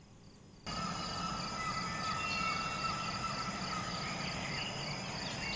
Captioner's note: animal vocalizations